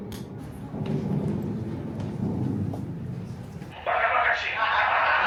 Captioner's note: underground rumbling